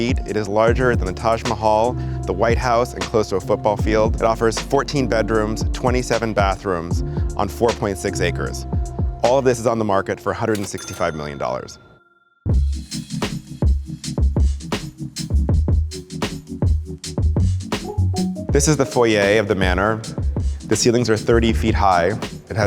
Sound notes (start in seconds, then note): 10.7 register rings; 12.8 upbeat music